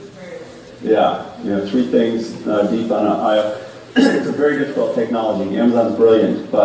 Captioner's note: cough